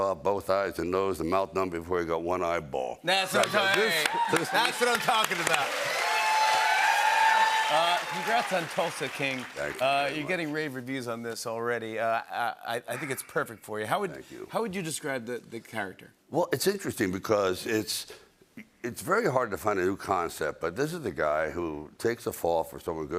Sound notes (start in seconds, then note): 3.2 cheering; 5.4 cheering and applause